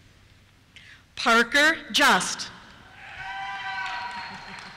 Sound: cheers

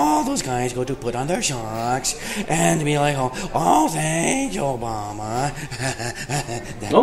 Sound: laughing

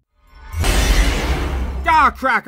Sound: magical protection noise

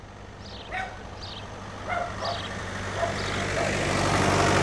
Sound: dog barks; tractor engine rumbles

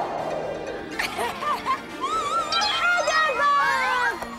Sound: everyone laughs

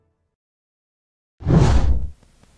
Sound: fwoosh

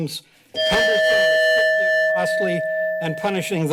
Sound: timer dings

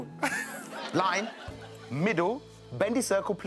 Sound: audience laughing

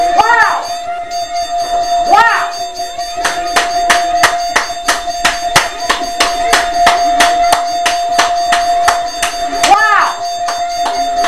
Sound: claps; dings, clangs, and whoops

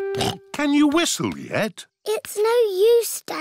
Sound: snorts

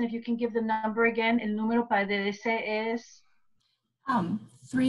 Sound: speaking spanish

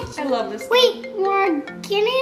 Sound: phone rings

